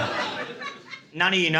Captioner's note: laughter